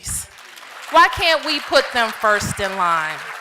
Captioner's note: applause